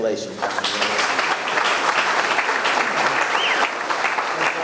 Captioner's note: audience clapping